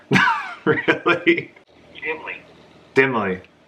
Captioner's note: laughs